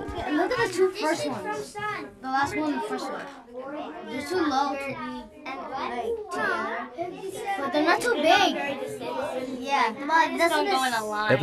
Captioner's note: students chatter